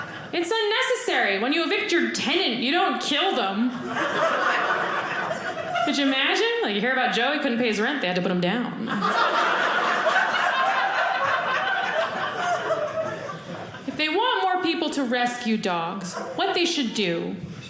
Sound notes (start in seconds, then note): 8.8 audience laughing